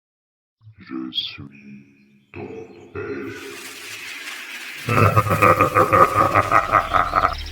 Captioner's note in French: Rire